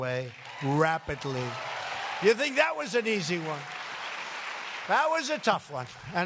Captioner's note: applause